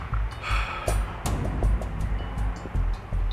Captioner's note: Jason sighs